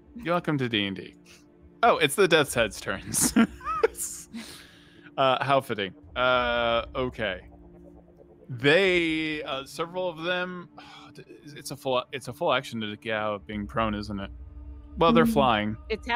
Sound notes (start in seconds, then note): 3.0 laughs; 10.8 scoffs